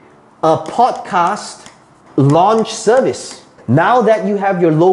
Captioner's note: tapping marker